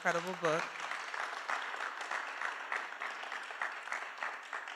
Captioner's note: applause